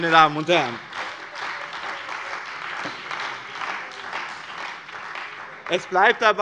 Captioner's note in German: Beifall bei dem BÜNDNIS 90/DIE GRÜNEN und der CDU